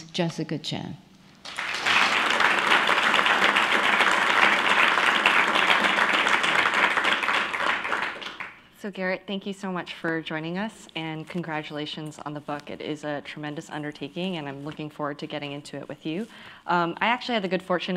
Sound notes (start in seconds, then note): 1.4 applause